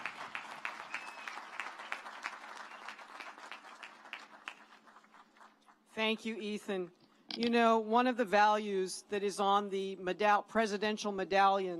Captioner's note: cheers